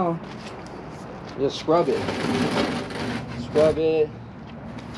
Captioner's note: bin scraping